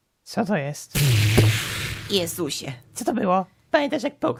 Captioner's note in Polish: wybuch